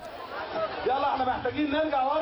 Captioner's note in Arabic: ثرثرة في الخلفية